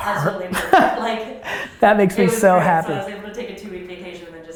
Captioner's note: laughs